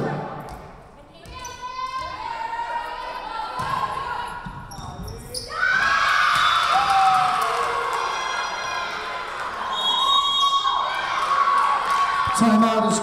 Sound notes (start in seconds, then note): 5.6 Tigers cheering; 9.7 whistle blowing